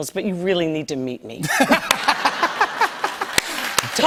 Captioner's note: laughter